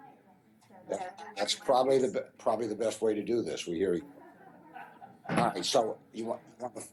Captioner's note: voiceover